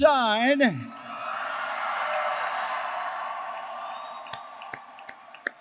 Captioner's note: applause